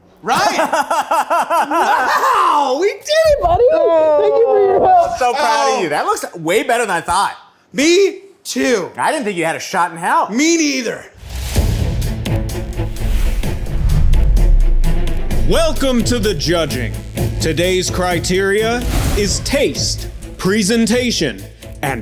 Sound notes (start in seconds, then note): 11.6 suspenseful music; 12.6 screen whooshes